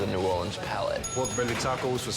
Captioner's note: bell rings